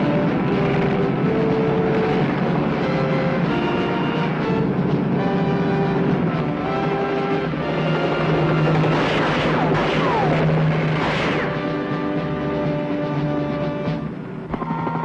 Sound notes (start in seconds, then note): 0.2 helicopter roaring continues; 5.7 dramatic music; 8.2 gunshot pops; 10.8 gunshots popping; 13.0 dramatic music